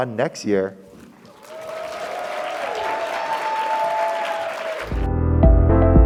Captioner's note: audience applauding; audience cheering; light music